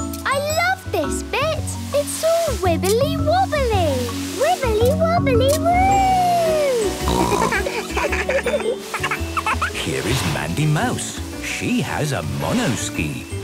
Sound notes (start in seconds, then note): 7.0 snorting; 7.0 giggling; 7.2 laughter